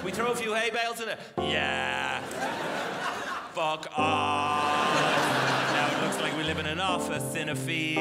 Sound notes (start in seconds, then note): 1.9 crowd laughs